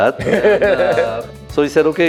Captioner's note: laughing